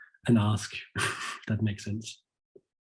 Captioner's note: chuckles